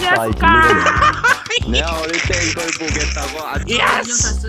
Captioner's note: laughs in Mouse